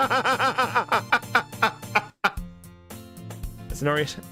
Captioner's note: laughs